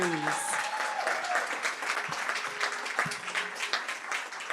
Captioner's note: applause